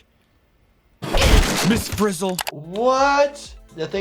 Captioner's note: chair cracks